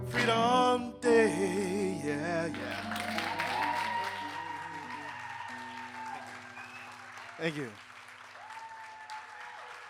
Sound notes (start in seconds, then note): 2.5 audience cheering and applauding